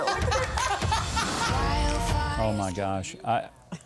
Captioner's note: they laugh